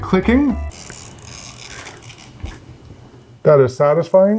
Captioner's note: tool clicking